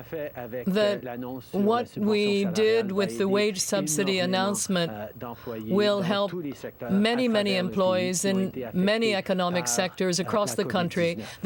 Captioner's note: speaking French